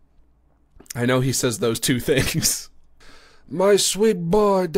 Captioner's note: normal voice